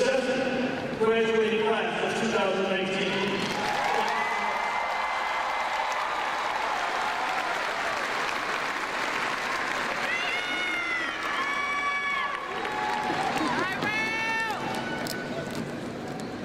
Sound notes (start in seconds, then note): 4.4 crowd cheering